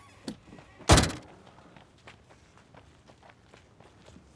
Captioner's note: door slams